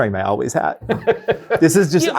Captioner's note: guy laughing